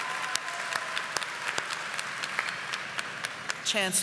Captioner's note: audience applauding